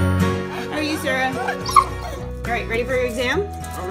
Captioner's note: dog barking